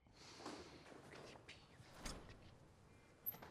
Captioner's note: whispering